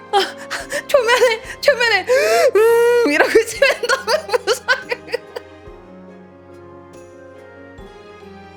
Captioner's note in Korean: 웃음; 울음; 웃음